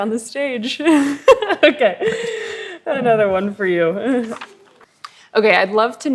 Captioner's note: laughs